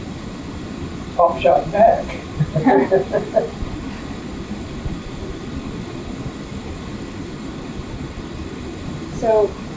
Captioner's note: laughter